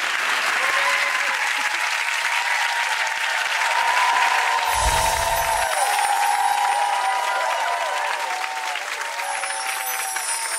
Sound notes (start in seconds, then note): 0.2 clapping and cheering; 4.6 chimes